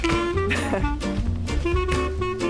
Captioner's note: chuckles